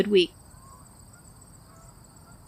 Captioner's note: background sounds fade out